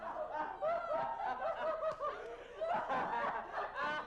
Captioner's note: laughing